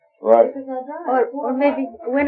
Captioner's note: speaking Farsi